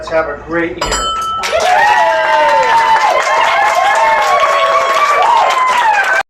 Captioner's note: bell rings; crowd cheers